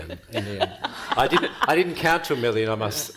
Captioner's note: panel and audience laughing